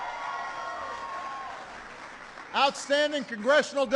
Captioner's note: applause